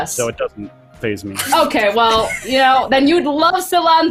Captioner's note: laugh